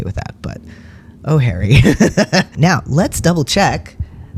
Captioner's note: laugh